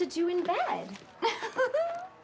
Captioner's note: laughs